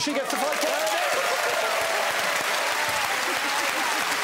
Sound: applause

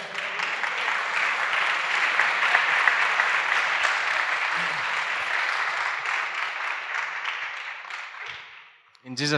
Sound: applause

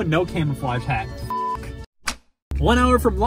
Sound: beep

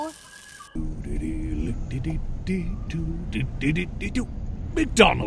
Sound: humming

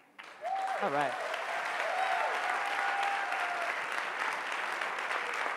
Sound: audience clapping and cheering

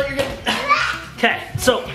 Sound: grunts

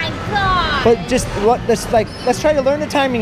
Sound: stammers

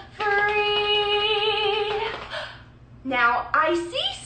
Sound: slapping

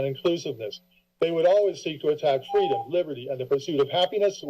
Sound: beeping

